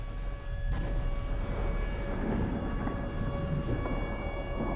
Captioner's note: rumbling and explosions